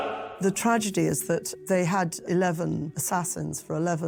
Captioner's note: Welsh